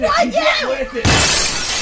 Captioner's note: window smashes